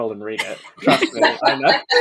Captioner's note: laughing